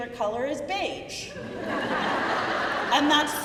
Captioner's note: crowd laughing